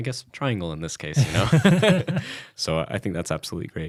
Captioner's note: laughs